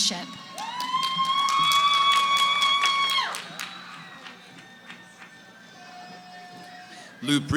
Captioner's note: cheering